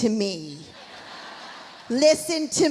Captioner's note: audience laughs